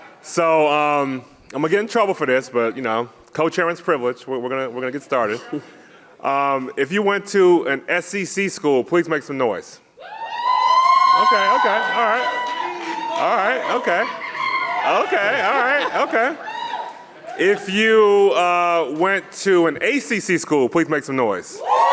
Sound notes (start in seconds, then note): 10.1 audience cheering; 13.8 audience cheering; 16.2 audience cheering; 21.5 people cheering